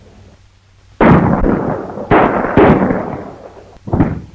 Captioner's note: guns firing